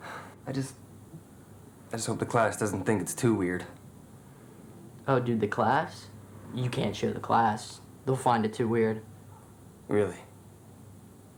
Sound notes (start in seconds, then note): none